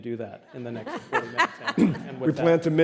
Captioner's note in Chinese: 笑聲